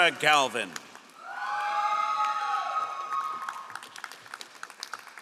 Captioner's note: all applauding